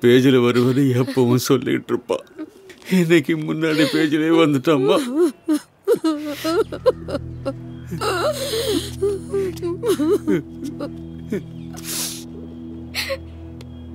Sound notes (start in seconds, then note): 1.0 Zara weeping; 1.0 pathos music